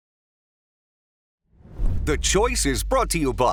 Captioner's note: logo whooshes